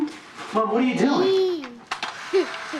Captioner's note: babbling